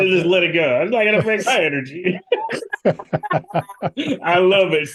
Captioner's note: laughing